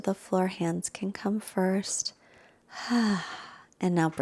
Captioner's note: exhales deeply